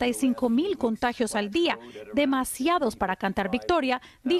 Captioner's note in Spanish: HABLAN EN INGLéS